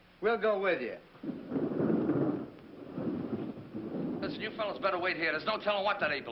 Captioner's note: thunder